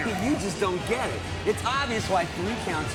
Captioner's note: chuckles